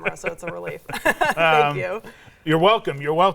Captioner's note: laughs